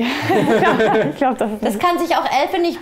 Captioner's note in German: Lachen